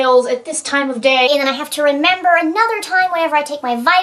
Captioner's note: high-pitched voice